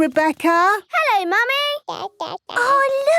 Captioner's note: babbling